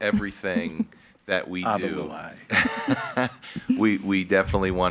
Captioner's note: laughs